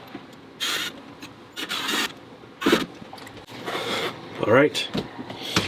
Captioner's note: drilling sounds